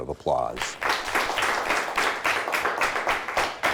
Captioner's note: applause